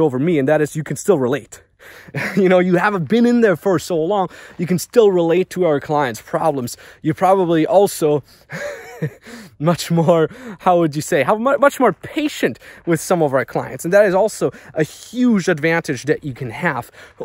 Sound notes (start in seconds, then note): 2.1 laughs; 8.5 laughs